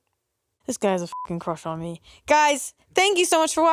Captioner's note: beep